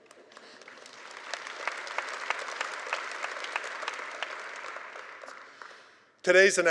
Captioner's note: applause